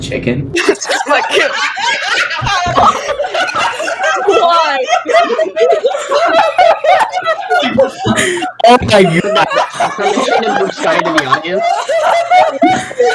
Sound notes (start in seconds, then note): 0.5 laughter intensifies